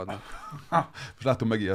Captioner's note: laughing